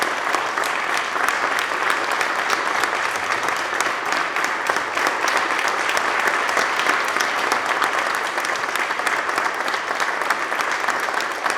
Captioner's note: applause